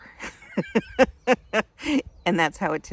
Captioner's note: laughing